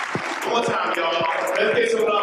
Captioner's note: group applauds